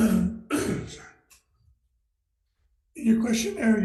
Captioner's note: coughs